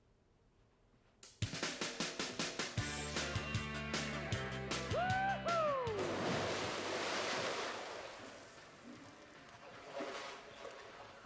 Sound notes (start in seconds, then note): 2.1 upbeat rock music; 5.9 splashing